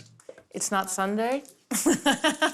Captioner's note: laughs